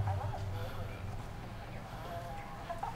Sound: TV playing

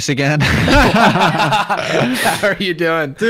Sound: both laughing

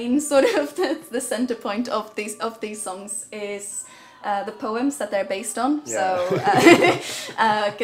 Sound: laughs

